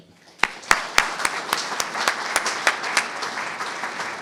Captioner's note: audience clapping